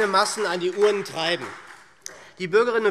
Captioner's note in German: Beifall SPD